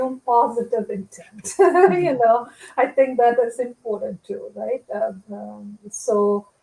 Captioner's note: laughter